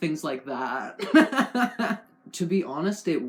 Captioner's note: laughing at my own joke